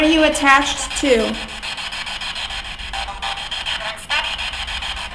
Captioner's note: static buzzing